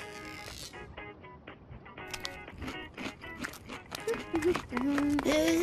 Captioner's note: munching